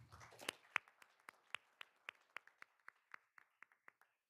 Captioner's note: all applauding